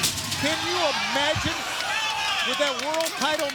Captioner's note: crowd cheering